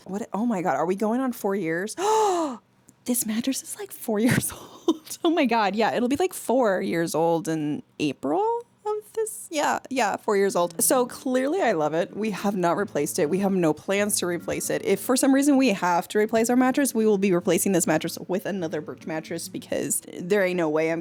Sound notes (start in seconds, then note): 2.0 gasps